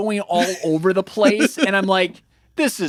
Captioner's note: laughing